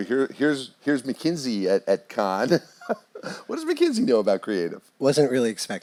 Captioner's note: laugh